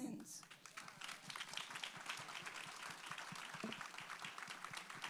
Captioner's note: audience applauds